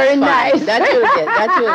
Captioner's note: laughs